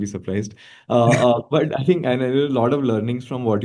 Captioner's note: chuckling